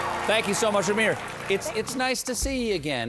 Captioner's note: band playing; cheers and applause